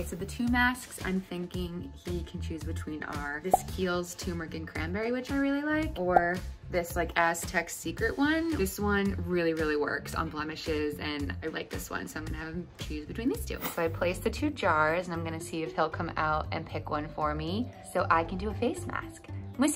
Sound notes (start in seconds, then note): none